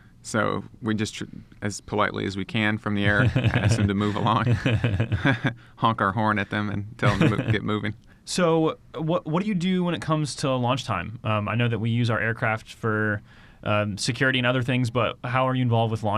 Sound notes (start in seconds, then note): 4.6 both chuckle